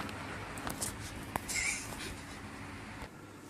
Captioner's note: giggles